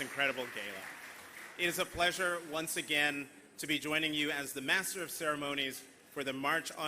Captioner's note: applause